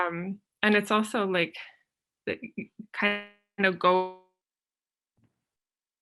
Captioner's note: audio blurs